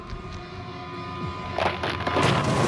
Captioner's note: cracking